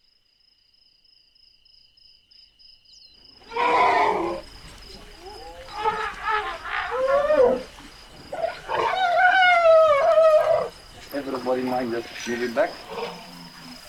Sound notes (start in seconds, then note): 3.4 elephant trumpets